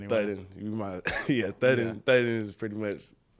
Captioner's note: chuckling